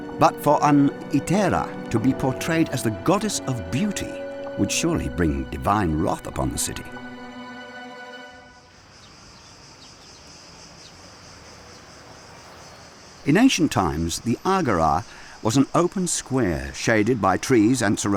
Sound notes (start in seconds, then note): 7.8 suspenseful music; 8.5 crickets chirring; 8.6 birds chirping